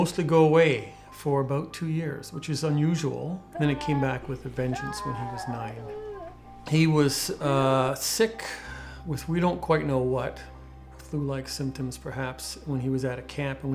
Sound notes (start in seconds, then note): 6.3 crying